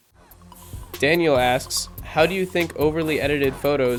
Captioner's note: voiceover